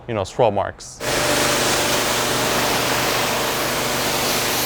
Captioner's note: machine whirring